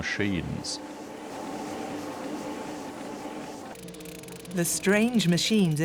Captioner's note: machines humming